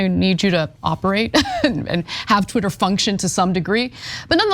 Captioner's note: laugh